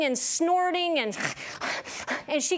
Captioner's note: heaving noise